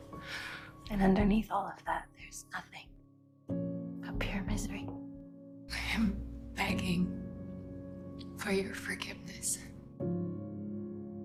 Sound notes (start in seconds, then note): 1.1 voiceover; 4.2 voiceover